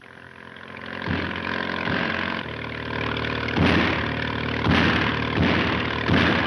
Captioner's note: speedboat engines roaring; guns firing